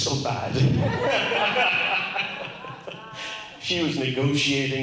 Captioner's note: laughs